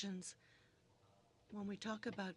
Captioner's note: speaking in french